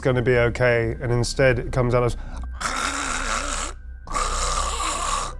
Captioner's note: imitates gurgling